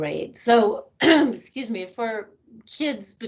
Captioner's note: coughing